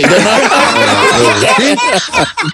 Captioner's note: laughter